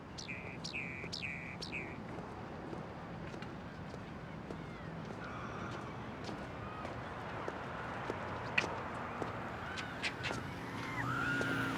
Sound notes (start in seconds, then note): none